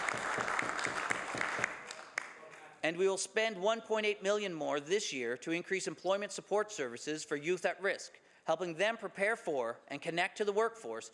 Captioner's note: some Applause